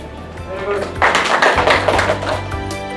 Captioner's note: audience applause; upbeat music